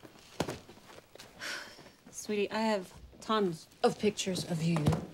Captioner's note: sighs